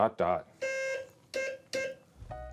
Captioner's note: beeping